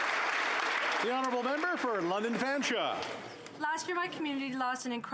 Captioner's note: applause